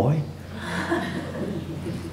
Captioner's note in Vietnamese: laughter